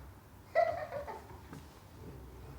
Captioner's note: laughter in distance